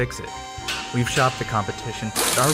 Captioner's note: hydraulics moving